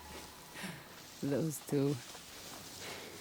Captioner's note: laugh